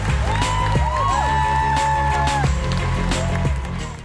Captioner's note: audience cheering